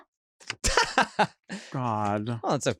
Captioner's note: laughs